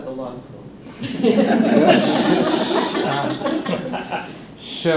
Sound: laughter

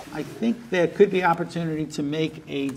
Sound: none

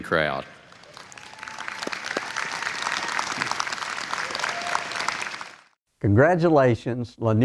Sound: applause

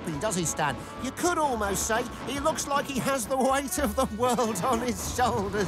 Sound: laughing

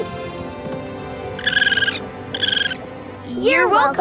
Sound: squeaking

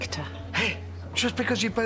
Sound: scoffs

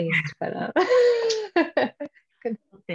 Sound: laughter

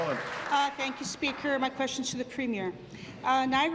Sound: applause

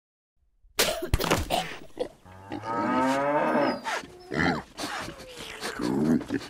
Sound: various gross animal sounds

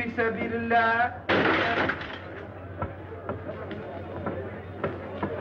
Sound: ceramics shattering

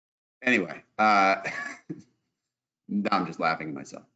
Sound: laughs

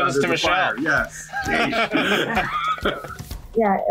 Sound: laughs

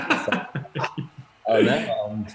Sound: laughter

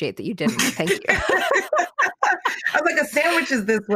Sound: laughing

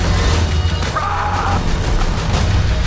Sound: yells

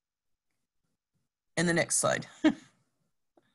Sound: laughs

